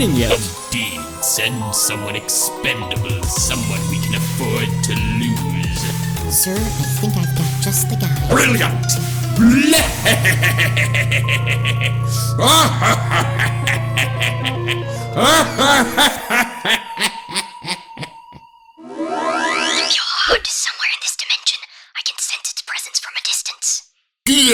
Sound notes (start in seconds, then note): 9.4 laughing maniacally